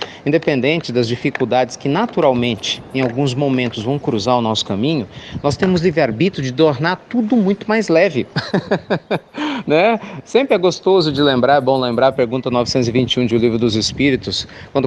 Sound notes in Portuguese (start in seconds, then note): 8.3 Risos